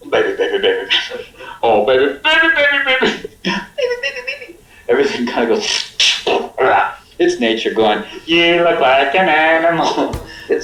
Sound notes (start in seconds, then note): 6.4 imitates farting